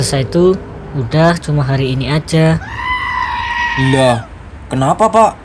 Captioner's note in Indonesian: berteriak